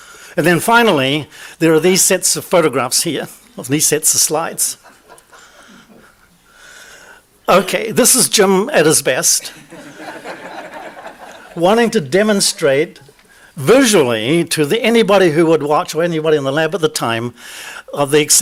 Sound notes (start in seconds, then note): 4.7 chuckles